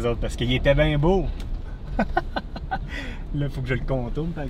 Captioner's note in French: Rire